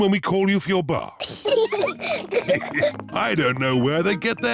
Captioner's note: peppa and george giggle